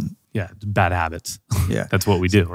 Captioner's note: chuckles